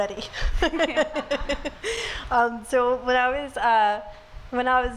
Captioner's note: laughs